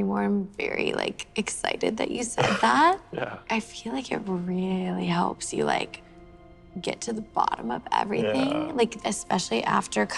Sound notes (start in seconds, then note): 3.1 laughs